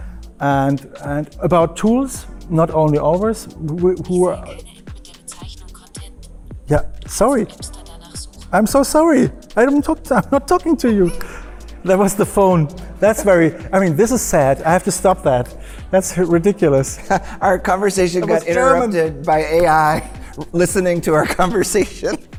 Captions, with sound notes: and and about tools not only our’s... (watch speaking in German.) Yeah, sorry! I'm so sorry! I don’t talk, I’m not talking to you. That was the phone. That's very I mean, this is sad. I have to stop that. That's ridiculous. Our conversation was interrupted by AI listening to our conversation.